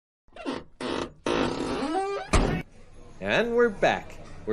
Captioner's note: car door squeaks and slams